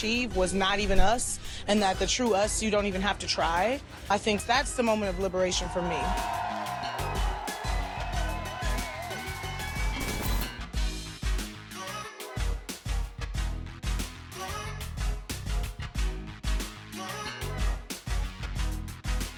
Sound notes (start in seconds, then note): 5.5 audience cheers; 10.8 upbeat music